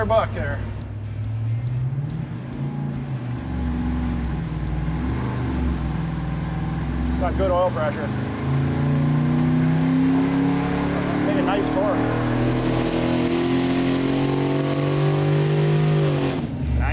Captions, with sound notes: - Good. - Let 'er buck there. (engine revving) It's got good oil pressure. (engine revving) - Hit a nice torque. (engine revving loudly)